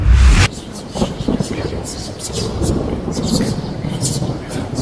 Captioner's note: spell reciting